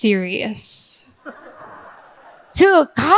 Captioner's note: audience laughing; speaking in foreign language